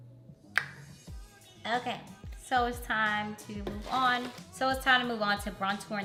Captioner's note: clicks tongue